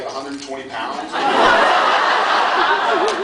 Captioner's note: laughs